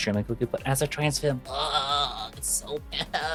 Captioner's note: groaning